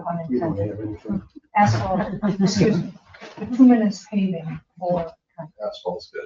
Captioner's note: group chatters and chuckles